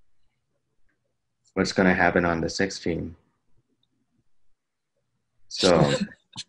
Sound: laughs

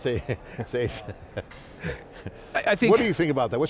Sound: laughing

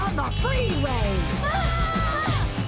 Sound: screaming

